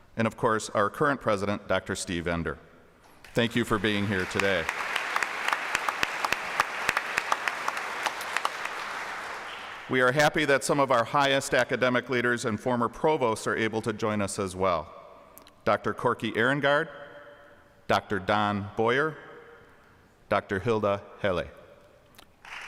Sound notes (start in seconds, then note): 4.9 applause; 22.4 applause